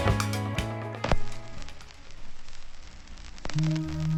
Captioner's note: record crackling